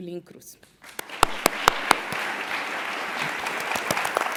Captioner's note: applause